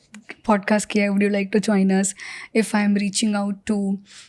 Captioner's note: speaks in Hindi